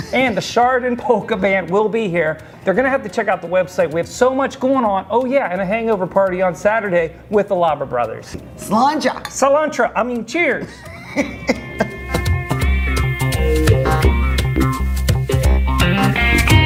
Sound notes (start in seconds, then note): 10.6 laughing